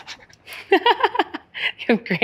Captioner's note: laughing